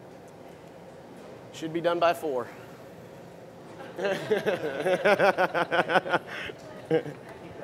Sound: laughter

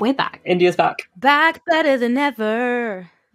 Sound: sing-song

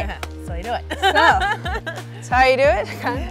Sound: laughs

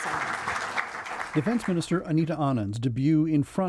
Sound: applause

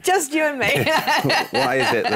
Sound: laughs

